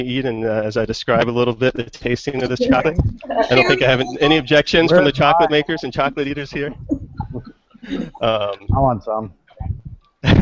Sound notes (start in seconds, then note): 7.0 group laughing